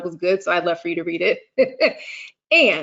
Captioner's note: laughs